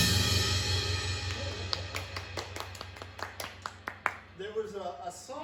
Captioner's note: clapping